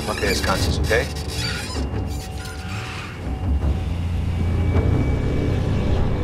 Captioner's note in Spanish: Ruido de la camioneta